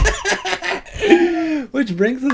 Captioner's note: both laugh